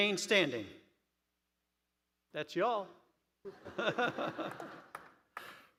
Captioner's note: applause